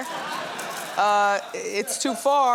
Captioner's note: audience laughs